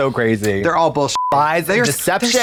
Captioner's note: beep